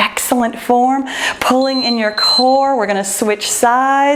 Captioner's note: timer beeps